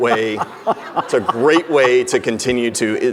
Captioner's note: laughing